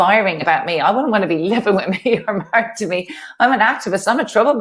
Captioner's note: laughs